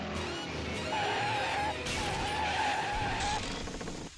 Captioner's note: breaks screeching